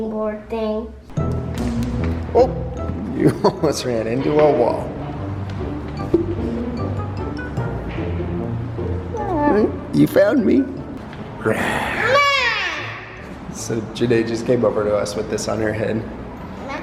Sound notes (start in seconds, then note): 1.6 mischievous music; 5.4 mischievous music; 11.7 playfully growls; 12.0 shouts